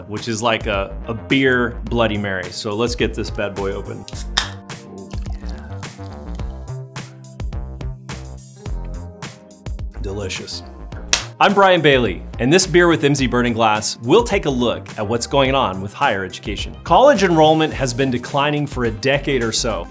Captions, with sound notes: which is like a beer Bloody Mary. So, let's get this bad boy open. (gas hisses) (aluminum can cracks) Oh, yeah. (smooth music) Delicious. I'm Brian Bailey. In this "Beer with Emsi Burning Glass" we'll take a look at what's going on with higher education. College enrollment has been declining for a decade or so,